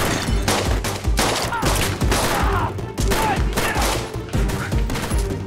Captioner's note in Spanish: Grita